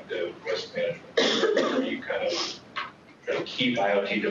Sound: coughing

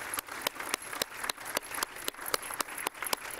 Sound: applause

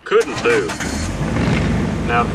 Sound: engine revs

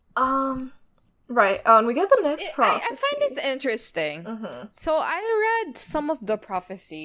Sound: laughs

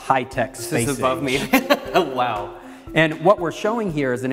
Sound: laugh

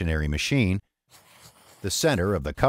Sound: pen scratching

